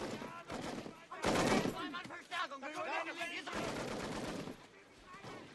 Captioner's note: german soldiers shouting